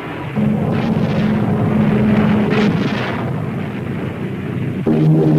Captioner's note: plane engine roaring